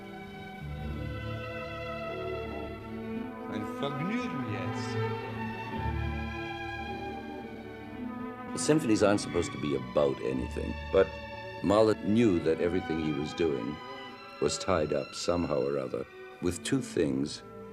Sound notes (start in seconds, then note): 3.7 speaking in foreign language